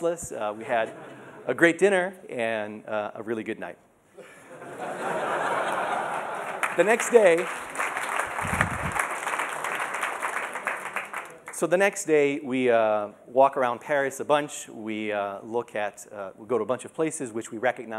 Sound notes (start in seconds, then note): 6.0 applause